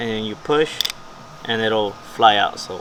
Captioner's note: clip clicking